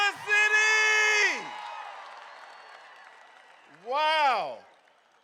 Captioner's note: crowd cheering